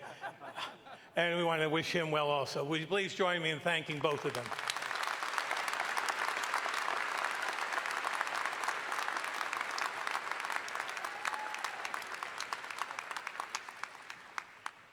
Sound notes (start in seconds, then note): 0.0 professors laughing; 4.9 audience applauding